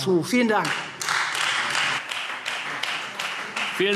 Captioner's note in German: Beifall Freie Demokraten und vereinzelt SPD